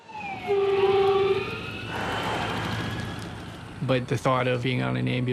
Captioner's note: siren blaring